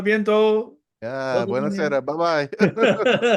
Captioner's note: speaking in foreign language; audience laughing